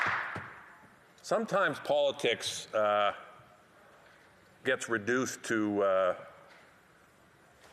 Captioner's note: applause